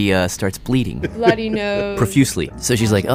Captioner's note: laughs